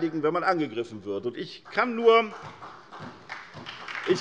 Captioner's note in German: Beifall bei der SPD